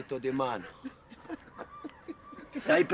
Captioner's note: sobbing